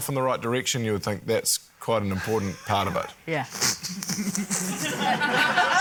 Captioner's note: snickers; laughter